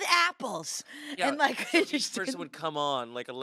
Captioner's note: laughs